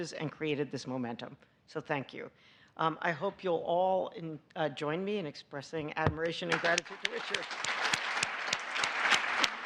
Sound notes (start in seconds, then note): 4.8 applause